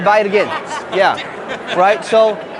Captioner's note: laughing